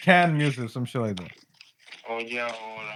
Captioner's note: non-english Speech